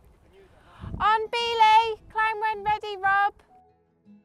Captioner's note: shouts